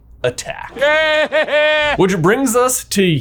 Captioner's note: Voldemort laughs